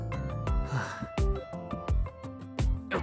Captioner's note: sigh